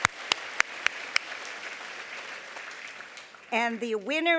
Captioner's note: applause